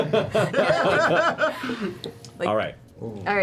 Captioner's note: laughter